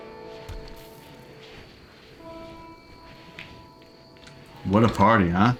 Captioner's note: silence